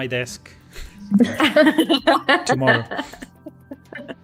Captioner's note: laughs